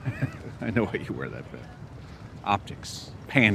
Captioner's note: chuckles